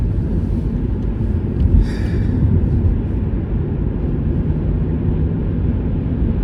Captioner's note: exhales